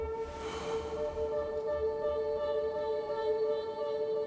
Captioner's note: James sighs